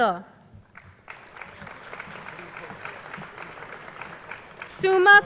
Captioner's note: crowd applauding